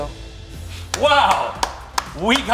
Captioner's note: applauding